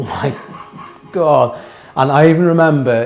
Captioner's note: interviewer laughing